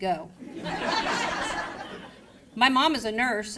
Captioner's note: crowd laughing